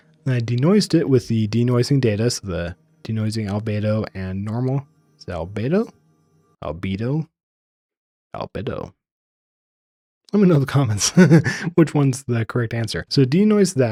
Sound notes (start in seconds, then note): 11.0 laugh